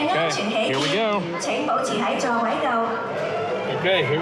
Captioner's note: announcement in Chinese